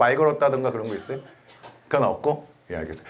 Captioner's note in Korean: 콜록 콜록